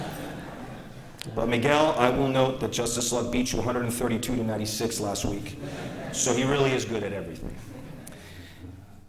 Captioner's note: laughter